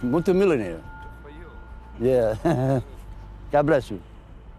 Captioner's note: laughs